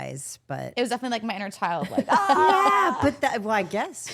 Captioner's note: wails